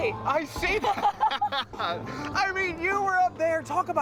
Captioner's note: laughs